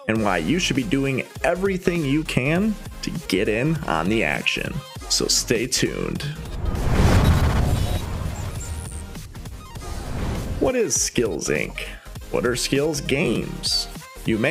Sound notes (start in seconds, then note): 6.3 air whooshing; 6.5 electricity buzzing; 7.9 upbeat music